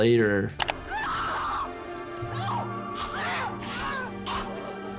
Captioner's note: person screaming